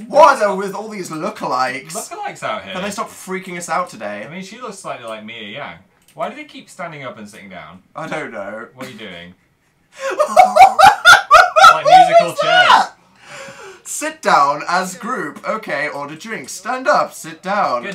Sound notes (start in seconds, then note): 9.9 laughs; 10.0 cackles loudly